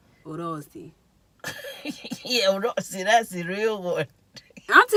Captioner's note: laughs